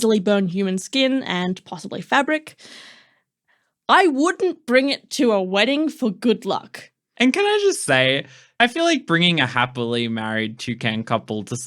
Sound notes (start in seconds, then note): none